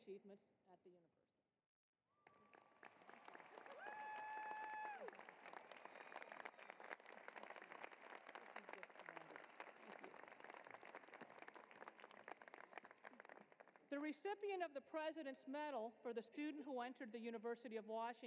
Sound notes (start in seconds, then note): 2.2 cheering and applause